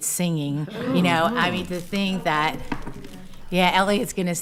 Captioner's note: attendees agreeing; attendee speaking quietly